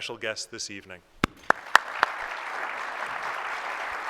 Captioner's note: applause